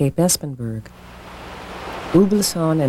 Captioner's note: waves rolling